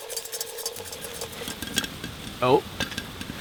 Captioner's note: kernels popping